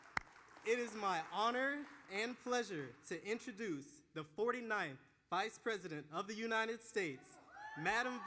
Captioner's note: applause